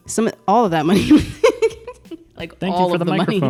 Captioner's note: laughs